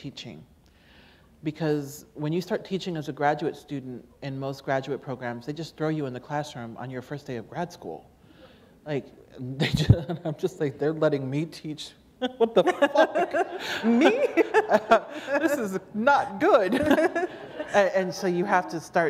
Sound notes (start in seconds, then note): 9.6 chuckle; 16.6 laughter